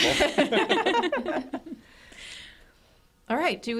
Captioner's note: group laughs